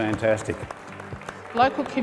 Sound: applause

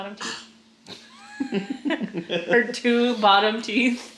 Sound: laughs

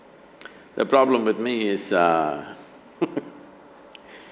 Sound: laughs

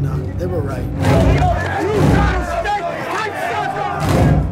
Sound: crowd shouting; dramatic percussive music

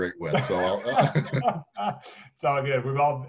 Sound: laugh

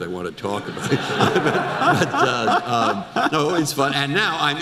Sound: audience laughter

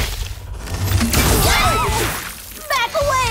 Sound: all screaming

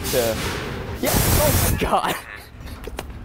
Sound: gust of wind; laughing

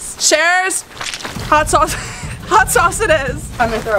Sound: laughs

